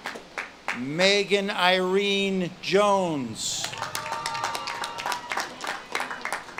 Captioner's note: audience claps and cheers